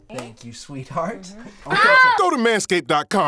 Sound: woman yells in pain

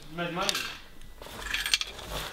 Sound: coins rattling

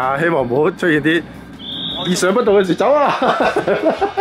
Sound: whistle!! !

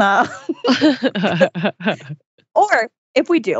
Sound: laughs

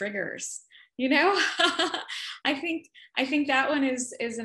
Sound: laughs

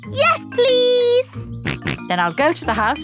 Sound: snorts

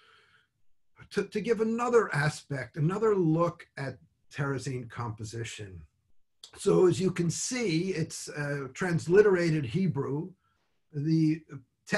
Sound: speaks in Hebrew

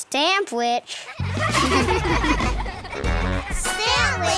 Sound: laughing

